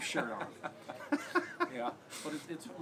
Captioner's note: laugh